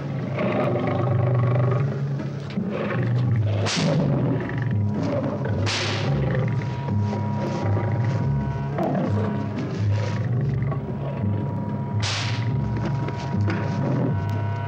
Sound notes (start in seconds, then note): 3.8 whip cracks; 7.7 suspenseful orchestral music; 12.0 whip cracks